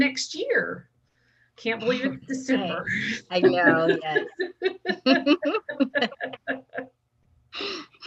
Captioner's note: laughter